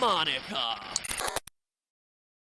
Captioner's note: glitch